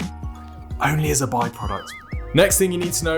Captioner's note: spring boings